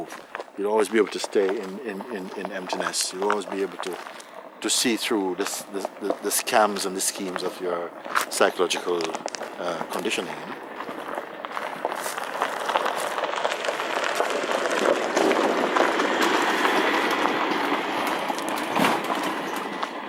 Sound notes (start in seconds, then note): 13.3 sound of approaching vehicle